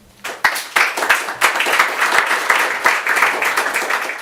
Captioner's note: audience applauds